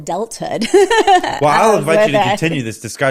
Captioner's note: laughs